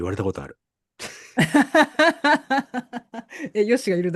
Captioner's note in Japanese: 笑い